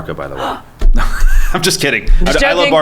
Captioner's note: gasps